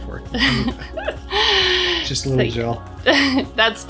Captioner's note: laughing